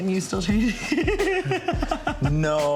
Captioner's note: laughs